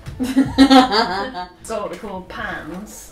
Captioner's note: laughs